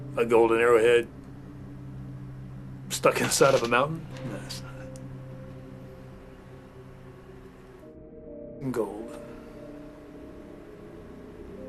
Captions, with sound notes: A golden arrowhead... stuck inside of a mountain? [mutters] No, that's not right. Gold.